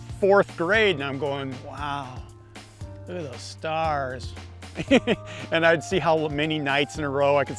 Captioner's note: laughs